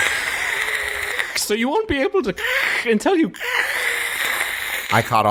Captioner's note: static; static